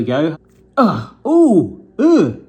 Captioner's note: grunting